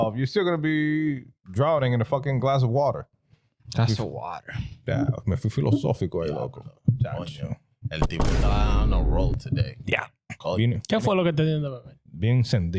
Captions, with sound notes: you're still gonna be drowning in a fucking glass of water. That's a water. (Speaking In Foreign Language) Yeah,